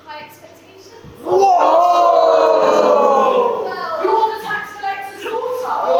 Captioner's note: audience are in disbelief